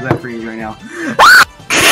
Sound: inhale

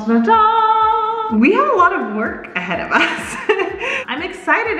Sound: laughs

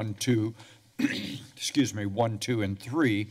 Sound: clears throat

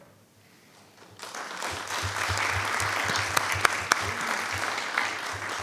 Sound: audience applauding

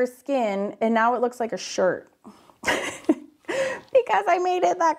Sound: laughs

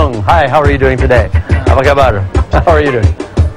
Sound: speaking indonesian

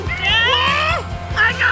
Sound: shouting

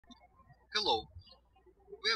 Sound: birds chirping

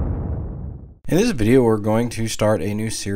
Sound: voiceover

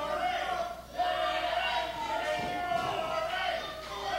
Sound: crowd chanting

